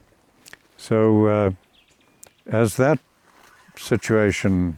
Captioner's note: speaking In Foreign Language